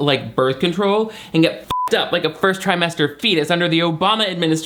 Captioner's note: beep